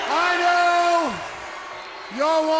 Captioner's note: crowd cheering